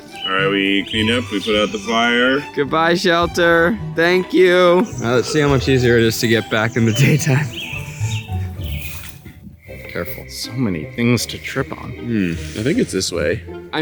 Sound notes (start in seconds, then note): 0.1 Keith laughs; 7.6 birds tweeting